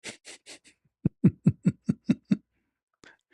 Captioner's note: ketawa